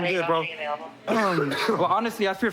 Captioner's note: coughs